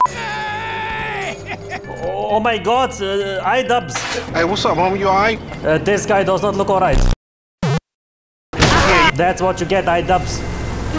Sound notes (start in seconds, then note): 7.5 boop